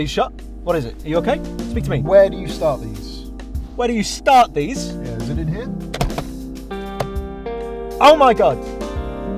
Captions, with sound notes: are you shot? what is it? are you okay? speak to me! where do you start these? where do you START these?! yeah. is it in here? [glove compartment opens] OH my god!